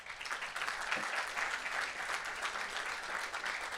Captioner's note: audience applauds